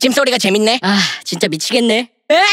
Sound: sigh

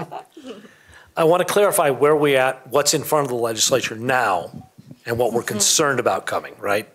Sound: laughter

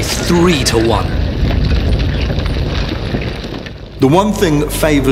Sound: boots thudding

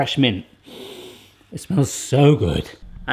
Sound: sniffing sound

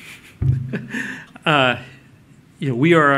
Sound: laughter

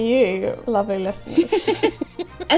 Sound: laughing

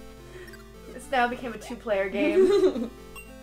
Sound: laughter

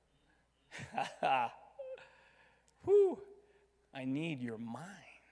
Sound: chuckles

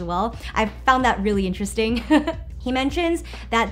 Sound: chuckles

